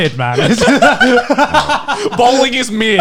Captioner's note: laughing